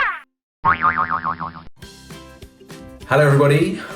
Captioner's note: spring boinging